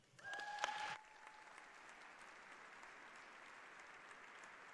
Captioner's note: applause